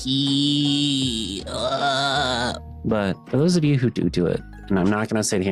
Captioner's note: groaning